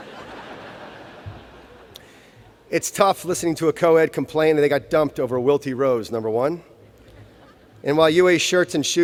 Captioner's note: laughter